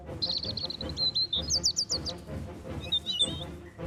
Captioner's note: birds singing